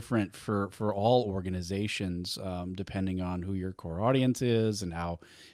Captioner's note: none